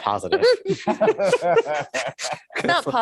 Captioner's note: laughter